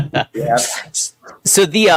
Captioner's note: laughs